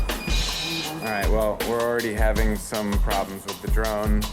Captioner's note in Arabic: أصوات الطيارة